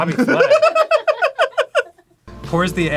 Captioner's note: cackling